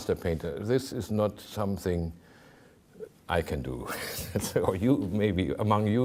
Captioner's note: chuckling